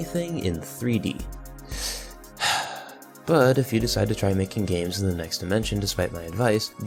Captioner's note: inhale exhale